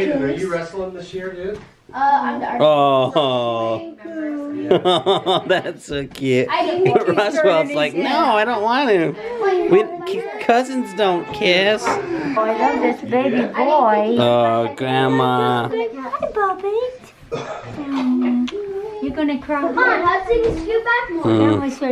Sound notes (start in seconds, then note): 17.9 baby talks